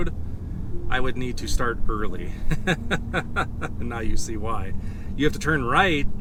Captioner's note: laughs